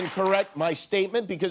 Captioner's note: applause